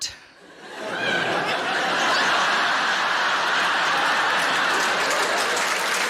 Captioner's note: audience laughing and applauding